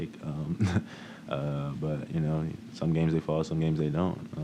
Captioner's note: chuckles